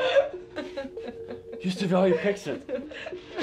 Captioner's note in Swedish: hahahaha